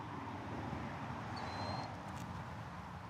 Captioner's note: bird cawing